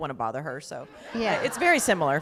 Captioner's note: laughter